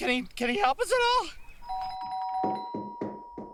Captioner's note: doorbell rings; knock at door